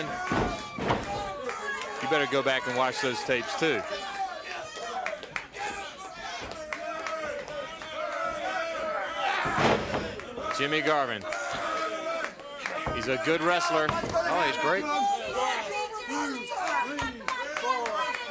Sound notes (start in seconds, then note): 3.7 crowd chatter